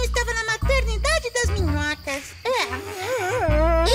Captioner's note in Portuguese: doroteia e ludovico bocejam